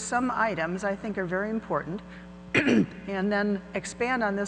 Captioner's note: clears throat